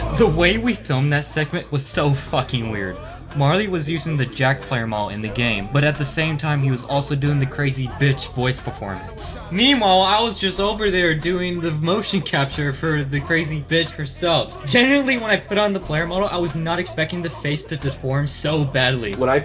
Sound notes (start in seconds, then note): none